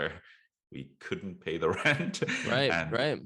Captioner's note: laughs